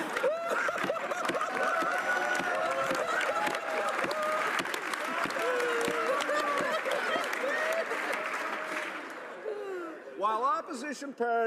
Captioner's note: laughter